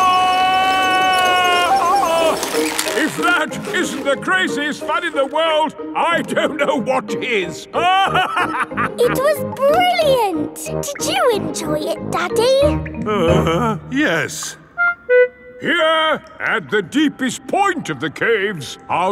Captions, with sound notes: (YELLING) If that isn't the craziest fun in the world, I don't know what is! (LAUGHING) It was brilliant! Did you enjoy it, Daddy? (GROANS) Yes. Here, at the deepest point of the caves,